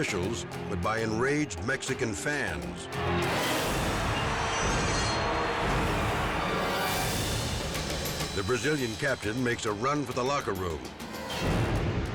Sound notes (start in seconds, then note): 2.8 dramatic music; 3.1 crowd shouting